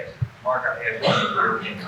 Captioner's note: speaks faintly